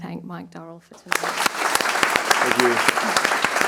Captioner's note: attendees applauding